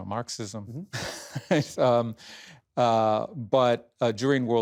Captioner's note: laughs